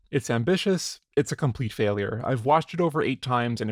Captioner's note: none